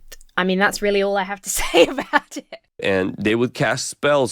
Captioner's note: laughs